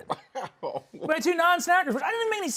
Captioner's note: laughs